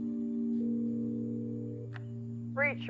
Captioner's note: phone ringing